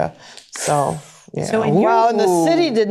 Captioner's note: sucks air